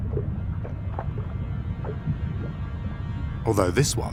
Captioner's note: water sloshes